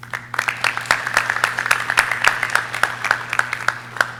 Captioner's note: audience clapping